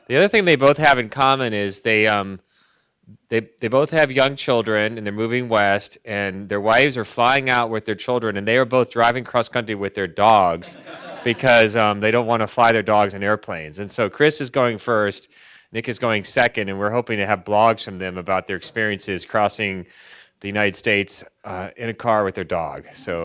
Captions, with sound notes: The other thing they both have in common is they both have young children and they're moving west, and their wives are flying out with their children and they are both driving cross country with their dogs, (audience laughs) because they don't want to fly their dogs in airplanes. And so Chris is going first, Nick is going second, and we're hoping to have blogs from them about their experiences crossing the United States in a car with their dog.